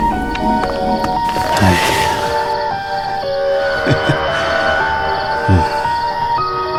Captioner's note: chuckles